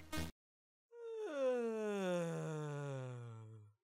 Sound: yawning

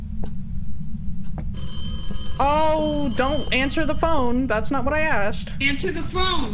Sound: phone rings

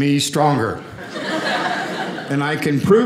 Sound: audience laughing

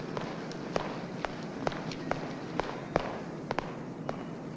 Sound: footsteps thudding

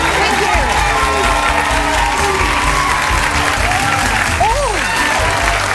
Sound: audience cheering and clapping

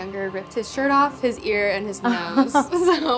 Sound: both chuckle

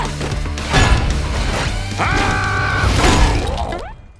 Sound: screams

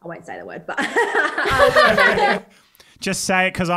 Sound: all laugh

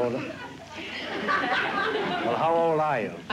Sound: laughter

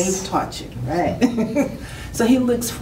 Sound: laughs

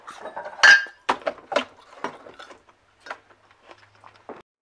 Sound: chews loudly; glass clinks

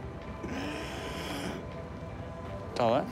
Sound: raspy breathing

